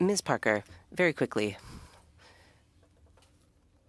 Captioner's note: speaking French